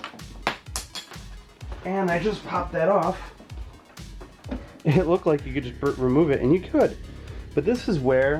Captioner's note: pop